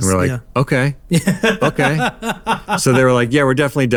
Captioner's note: laughing